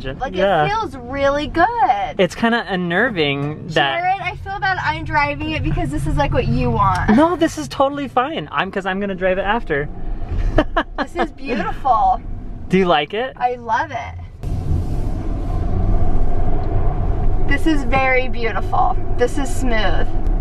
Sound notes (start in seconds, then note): 10.5 laughing